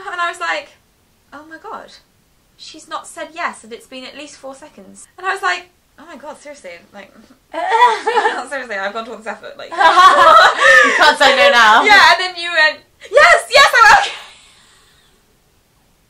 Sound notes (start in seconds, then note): 7.5 laughs; 9.7 both laugh